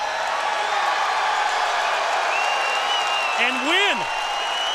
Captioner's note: crowd cheering